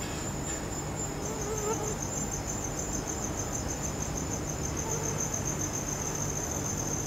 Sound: mosquito buzzing

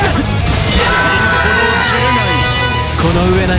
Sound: KO Scream

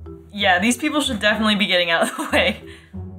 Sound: laughs

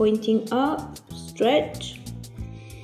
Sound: breathes deeply

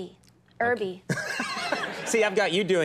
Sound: Conan laughing

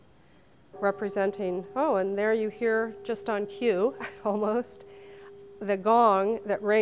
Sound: gong sounds

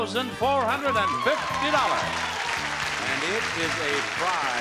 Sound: audience applauds

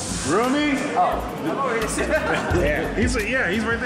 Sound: laughs

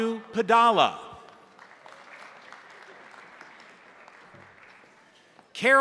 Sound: crowd applauding

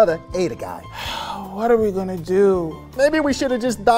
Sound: sighs

